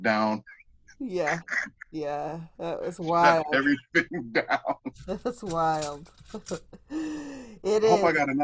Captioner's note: laughter; laughter